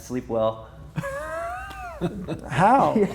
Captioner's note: chuckles; laughing